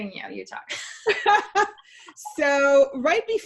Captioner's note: laughing loudly